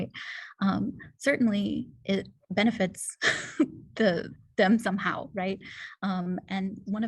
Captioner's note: laughter